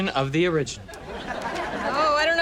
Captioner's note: audience laughs